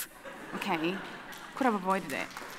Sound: audience laughing

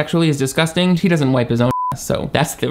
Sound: beep

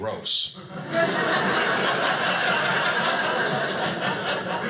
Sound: audience laughing

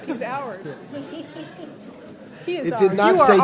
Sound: laughter

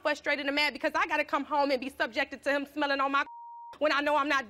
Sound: beeping

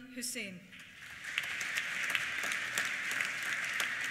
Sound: applause

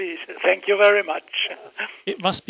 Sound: laughs

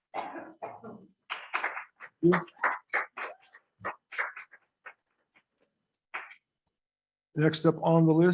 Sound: scattered applause

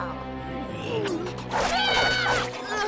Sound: screaming

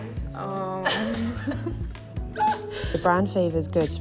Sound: laugh

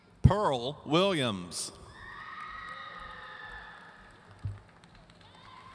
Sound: audience cheering

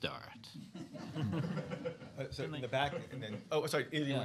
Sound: laughter

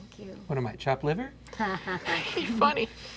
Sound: laughing

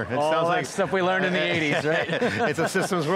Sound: laughs

